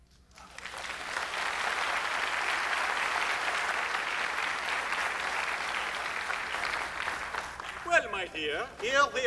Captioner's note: applause